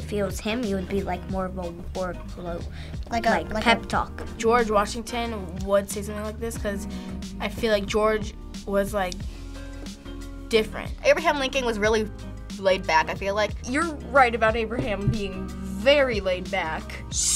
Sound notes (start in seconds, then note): none